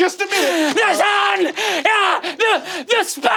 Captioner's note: screaming